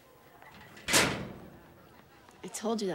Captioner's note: locker slams